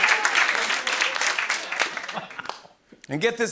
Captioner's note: laughing